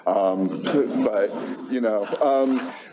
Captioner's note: laughter